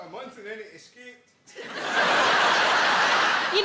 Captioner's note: audience laughing